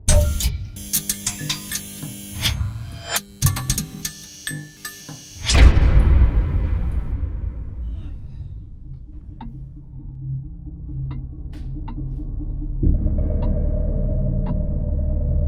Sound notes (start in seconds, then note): 0.0 electricity buzzes; 8.3 clock ticks; 8.3 tense music